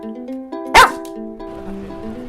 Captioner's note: bark!